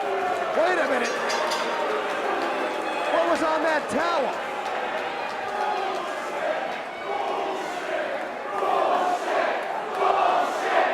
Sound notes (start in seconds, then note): 0.0 crowd chatter; 1.0 bell ringing; 5.7 crowd cheering